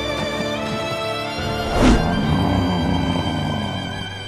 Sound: grunting

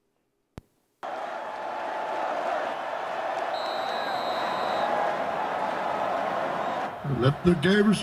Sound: crowd Noise

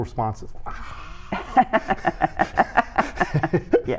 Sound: laughter

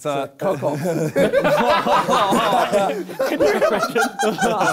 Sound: both laughs

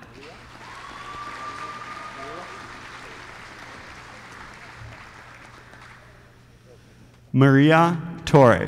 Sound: applause

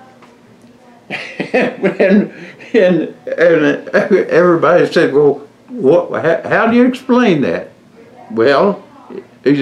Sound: laughs

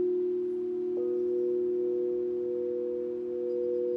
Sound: bowl hums

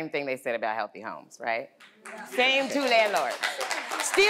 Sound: audience applauding

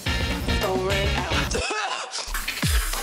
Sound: coughs

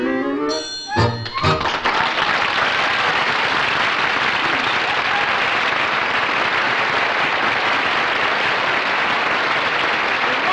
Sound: clapping

